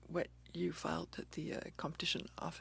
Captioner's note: speaking French